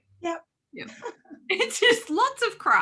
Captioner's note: laughing